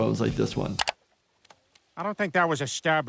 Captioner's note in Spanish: chasquido del teclado